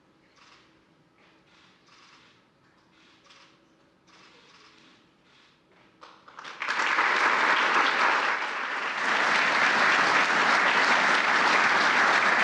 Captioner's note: applause